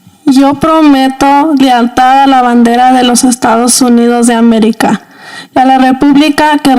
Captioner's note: reciting Pledge of Allegiance in Spanish